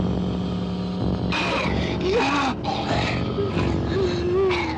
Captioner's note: growling